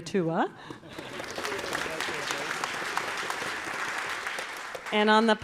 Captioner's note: audience, choir applauding; chuckles